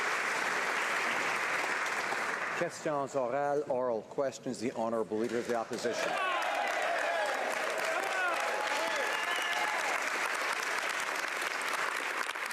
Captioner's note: applause